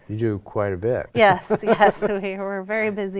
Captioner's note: chuckles